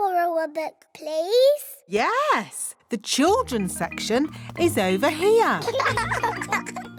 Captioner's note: laughter